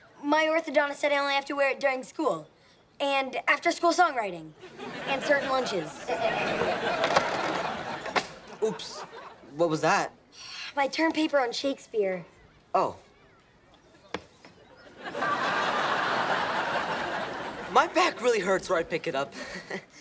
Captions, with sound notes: My orthodontist said I only have to wear it during school. And after school song writing. And certain lunches. [laughing] Oops. What was that? My term paper on Shakespeare. Oh. [laughing] My back really hurts, or I'd pick it up.